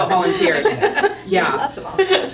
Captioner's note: all laughing